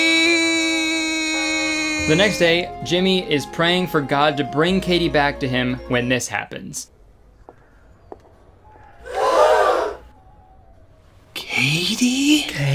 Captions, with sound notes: - The next day, Jemmy is praying for God to bring Katy back to him, when this happens. (gasps of shock) - Katy?